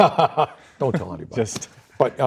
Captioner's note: laughs